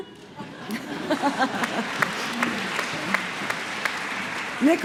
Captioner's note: applause